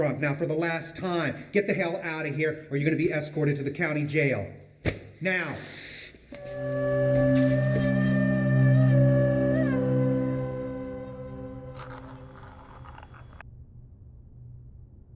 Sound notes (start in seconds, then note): 5.6 inhales through teeth